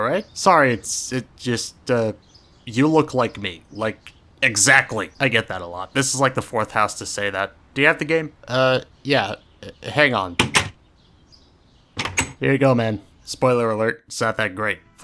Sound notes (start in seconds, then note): 10.3 minecraft_door_close.mp3; 12.0 minecraft_door_open.mp3